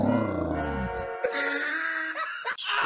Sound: loud Laughing

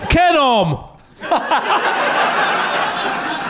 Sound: laughing

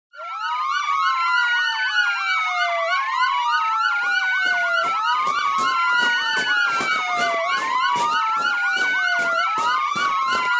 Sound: police sirens

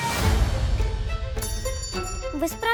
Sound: bell rings

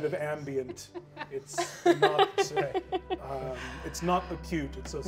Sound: laughing

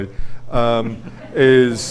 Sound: audience laughs

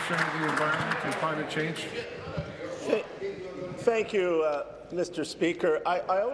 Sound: applause

